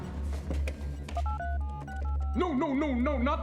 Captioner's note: dialing